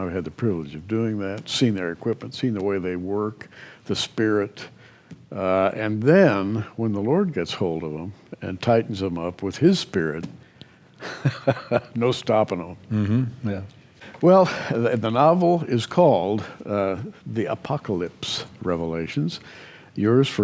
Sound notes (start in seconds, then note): 11.0 chuckles